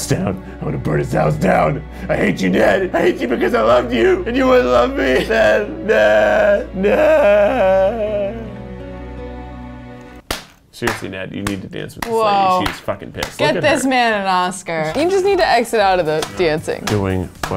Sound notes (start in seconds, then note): 5.5 cries; 7.5 sad music; 10.8 claps